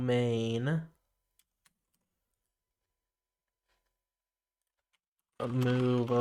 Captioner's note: silence